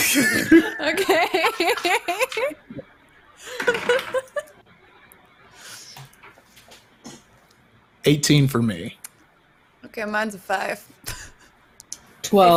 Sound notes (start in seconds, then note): 0.1 all laugh; 3.6 dice clatters